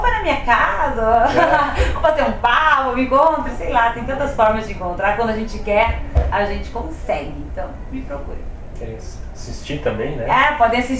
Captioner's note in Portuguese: risos